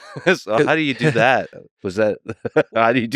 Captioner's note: laughs